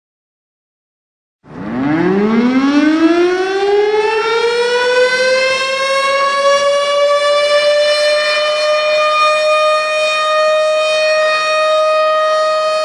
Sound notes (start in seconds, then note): 0.0 silence; 1.4 siren Ongoing